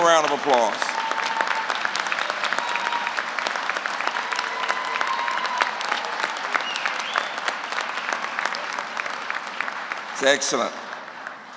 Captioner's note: applause